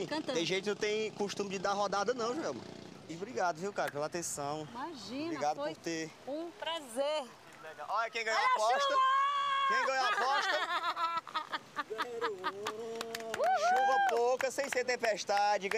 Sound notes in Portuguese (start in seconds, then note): 8.8 gritando; 11.8 cantarolando